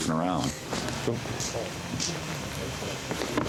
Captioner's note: rocks hitting